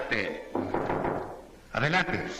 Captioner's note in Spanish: Llaman a la puerta